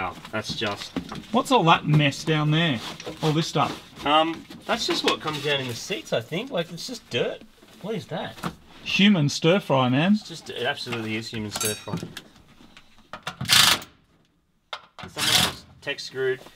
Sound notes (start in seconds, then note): 13.4 battery-powered drill